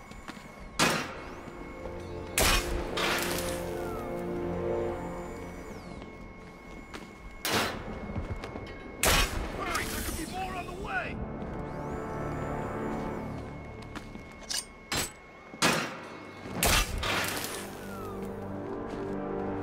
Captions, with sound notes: Hurry! There could be more on the way! [Gunshots]